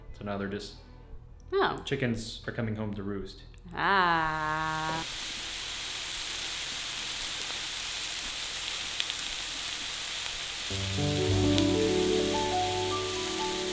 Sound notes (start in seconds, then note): 5.0 sizzling; 10.7 calm music